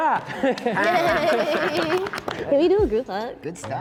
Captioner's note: all cheering